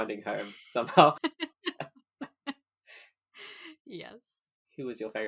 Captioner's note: laughing